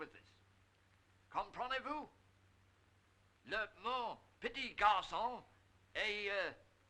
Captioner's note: speaking in French